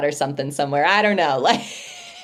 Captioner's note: laughs